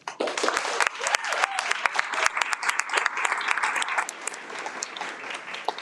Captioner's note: audience cheers and applauds